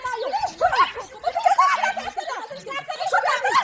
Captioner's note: laughter